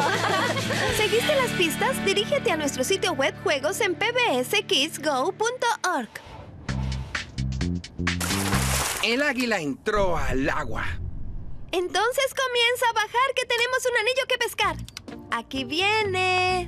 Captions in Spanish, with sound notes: - Abrazo grupal. [todas riendo] - ¿Seguiste las pistas? Dirígete a nuestro sitio web de juegos "Pick'M, Stick'M" en pbskidsgo.org. - El águila ha entrado al agua. - Entonces comienza a bajar que tenemos un anillo que pescar.